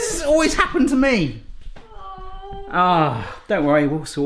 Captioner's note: groaning